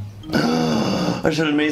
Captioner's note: gasps